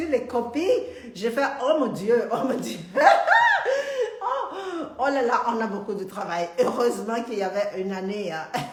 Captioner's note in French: Rires